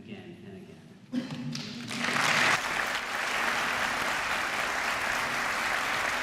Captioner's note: applause